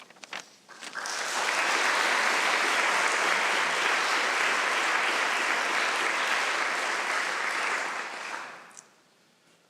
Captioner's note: applause